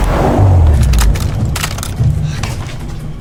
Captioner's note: gun cocking